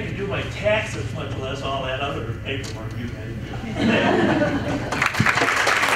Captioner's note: applause; chuckles